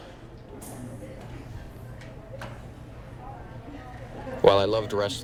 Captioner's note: class chattering